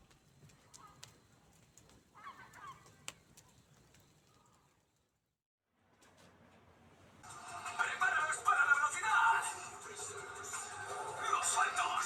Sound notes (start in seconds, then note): 7.5 spanish cartoon commentary